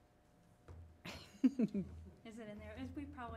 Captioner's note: laughing